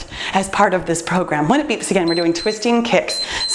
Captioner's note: timer beeps